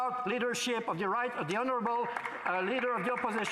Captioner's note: some Applause